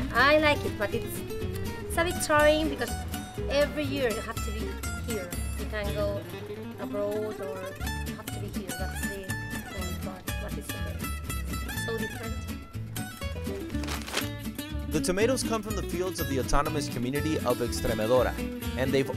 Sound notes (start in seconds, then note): 12.8 spanish guitar music; 13.5 paper rustling